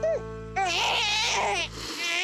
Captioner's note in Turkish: Bebek ağlıyor